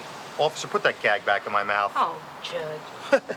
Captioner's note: chuckles